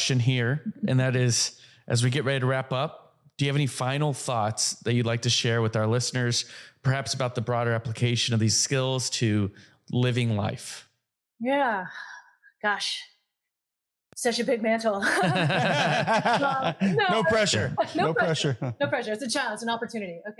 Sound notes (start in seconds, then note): 15.0 laugh